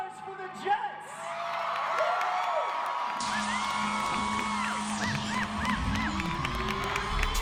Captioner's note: crowd cheering; lively pop music